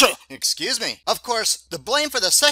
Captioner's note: sound of a sneeze